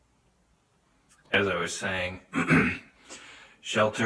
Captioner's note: clears throat